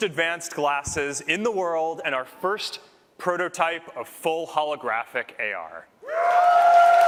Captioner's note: cheers